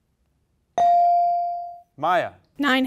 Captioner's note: bell rings